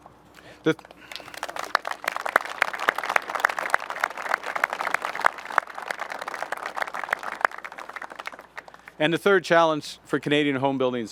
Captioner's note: applause